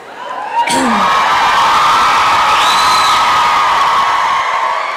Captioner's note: applause and cheering